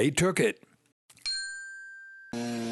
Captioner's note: bell; motor noise